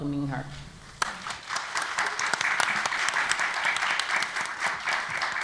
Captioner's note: applause